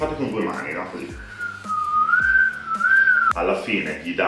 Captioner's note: whistling